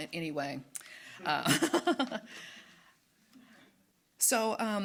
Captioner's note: laughing